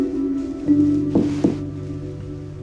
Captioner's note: knock on door